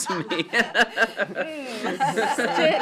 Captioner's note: laughs